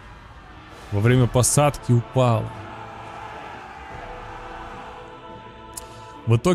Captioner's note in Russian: крик